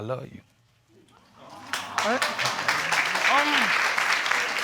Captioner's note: audience cheering and clapping